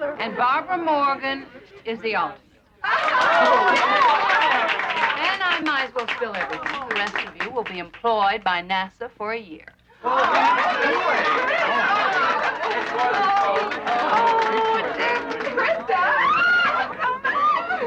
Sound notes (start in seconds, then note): 2.8 cheering; 10.0 cheering